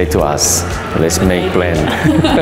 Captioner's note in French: Ils rient